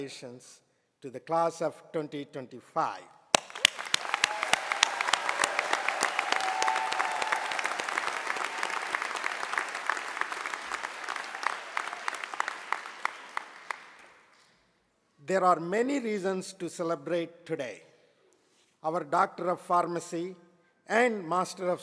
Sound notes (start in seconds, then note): 3.3 applause